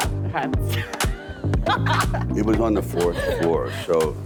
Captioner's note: laughing